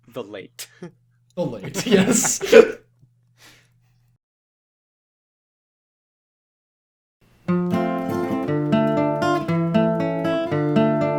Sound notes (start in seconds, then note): 1.6 laughter